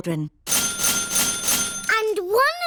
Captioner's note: dinging